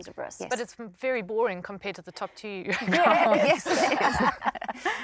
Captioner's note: laughter